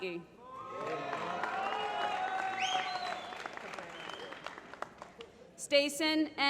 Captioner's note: applause